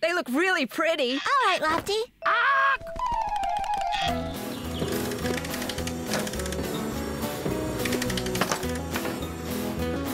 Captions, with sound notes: THEY LOOK REALLY PRETTY! ALL RIGHT, LOFTY. AAWK! ( Clicking )